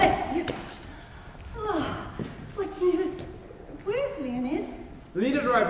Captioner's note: sighs